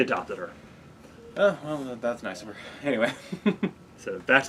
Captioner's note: laughs